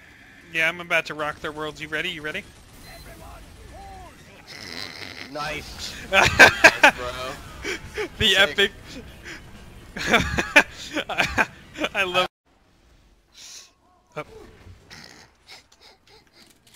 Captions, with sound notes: Yeah, I'm about to rock their worlds you ready, you ready? *suppressed laughter* *laughter* The epic *more laughter* *suppressed laughter*